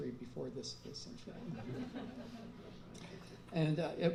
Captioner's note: laughter